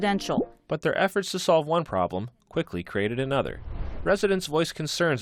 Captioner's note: voice-over